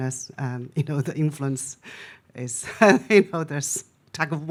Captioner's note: laughs